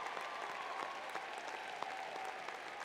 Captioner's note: applause